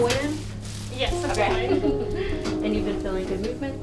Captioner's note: laughs